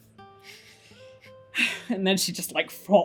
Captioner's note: sigh